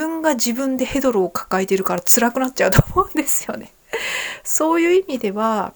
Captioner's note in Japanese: 笑い